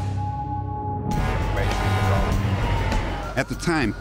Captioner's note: siren, horns